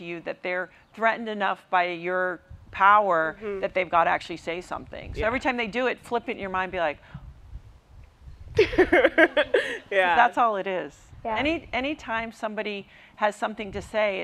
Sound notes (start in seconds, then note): 8.6 laughs